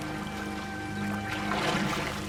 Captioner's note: splashing